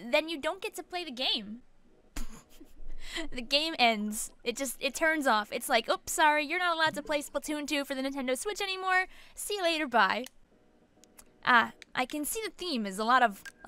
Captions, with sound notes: Then you don't get to play the game. (laughs) The game ends. It just, it turns off. It's just like, oops! Sorry, you're not allowed to play Splatoon 2 for the Nintendo Switch anymore! See you later, bye. (click) I can see the theme is a lot of...